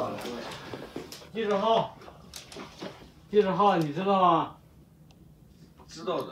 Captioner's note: speaks in Chinese language